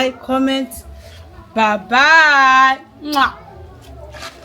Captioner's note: kisses